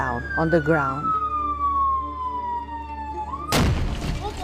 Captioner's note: siren; explosion